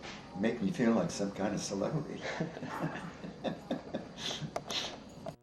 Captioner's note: laughs